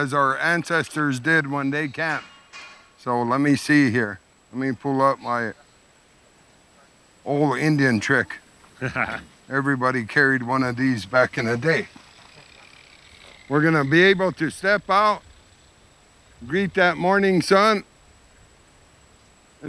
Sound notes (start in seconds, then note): 8.8 laughs